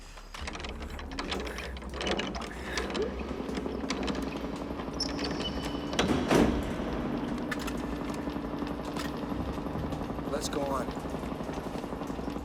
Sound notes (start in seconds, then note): 2.3 generator Humming; 12.2 water Dripping